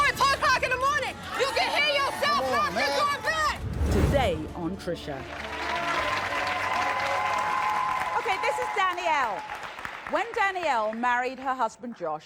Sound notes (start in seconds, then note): 5.2 audience applauding